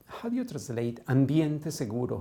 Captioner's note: non-english